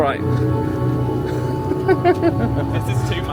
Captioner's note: laughs